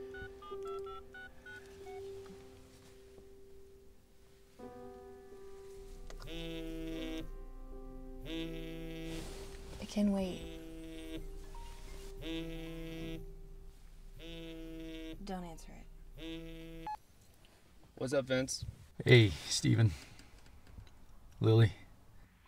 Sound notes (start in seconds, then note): 0.0 dialing; 6.2 buzzing phone